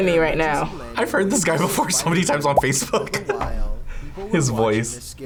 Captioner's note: laughs